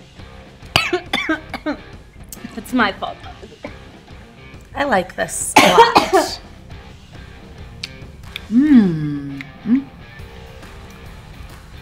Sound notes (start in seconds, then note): 0.7 coughs; 5.5 continues coughing; 7.6 smacks lips